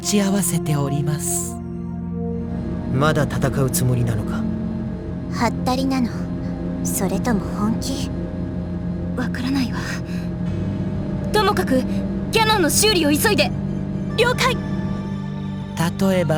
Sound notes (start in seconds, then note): none